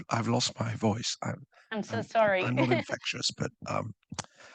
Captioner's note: chuckles